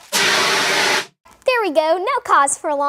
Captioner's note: fire extinguisher blows